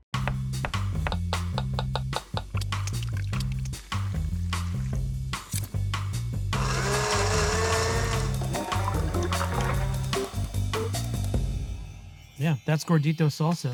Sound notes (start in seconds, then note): 0.2 upbeat music; 0.2 knife chopping; 2.5 canned tomatoes pouring; 3.9 lime juice squirting; 5.6 knife blade scrapes; 6.5 blender whirring; 8.4 mixture pours; 9.9 upbeat music